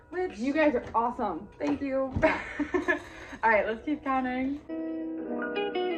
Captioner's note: laughs